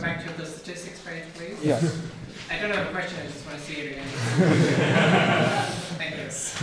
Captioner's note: laughing